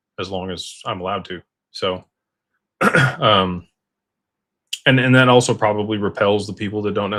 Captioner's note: clears throat